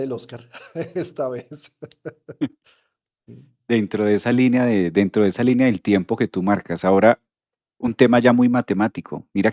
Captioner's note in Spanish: risas